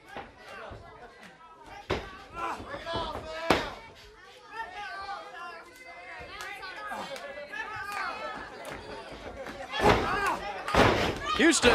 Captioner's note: crowd chatter